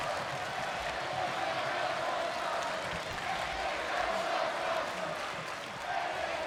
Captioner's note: audience chanting and applauding